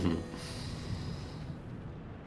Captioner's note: laughing